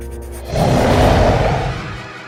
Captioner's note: roars